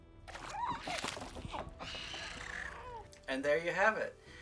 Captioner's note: Grogu and critter noises